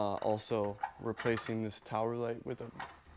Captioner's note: metal rattling softly